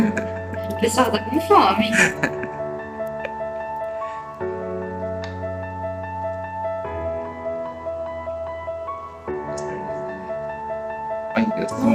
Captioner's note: laughter; laughter